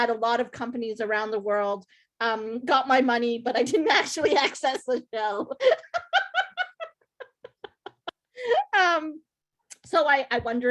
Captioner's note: laughs